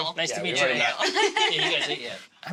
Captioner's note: girls laugh